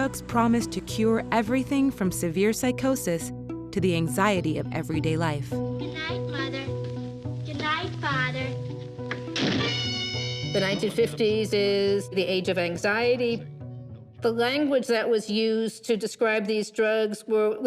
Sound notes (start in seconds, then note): 9.1 door slams